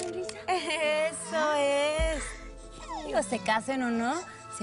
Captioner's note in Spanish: Risas